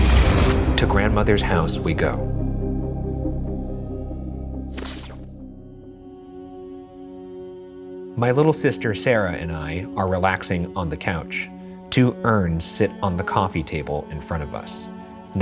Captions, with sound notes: To Grandmother's House We Go. (screen crackling) My little sister Sarah and I are relaxing on the couch. Two urns sit on the coffee table in front of us.